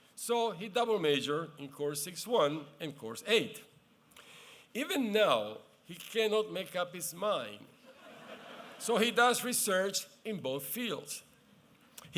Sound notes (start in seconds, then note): 7.8 laughter